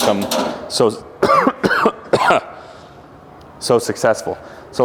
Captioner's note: coughs